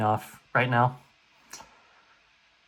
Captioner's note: smack